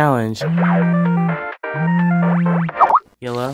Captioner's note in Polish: dzwoni telefon satelity